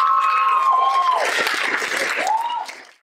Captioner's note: applause; cheers